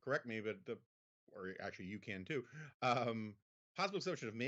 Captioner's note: Jonah laughs